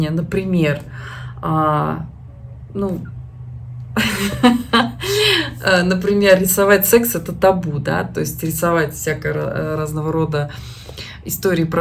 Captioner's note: laughs